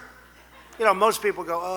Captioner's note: laughter